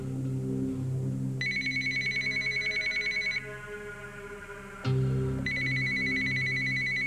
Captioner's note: Le téléphone sonne